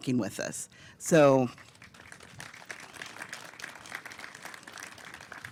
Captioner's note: applause